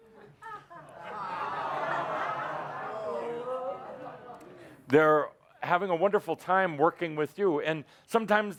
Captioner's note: audience groans at his bad joke